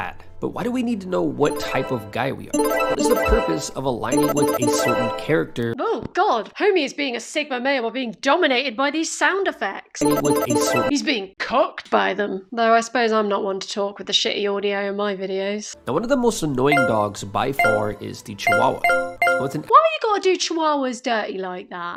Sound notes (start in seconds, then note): 2.5 overpower sound effects; 10.0 overpowering sound effects